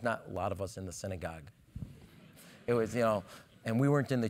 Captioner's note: laugh